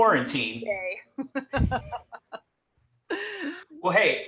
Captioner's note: laughs